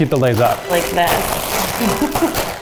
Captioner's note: bags rustling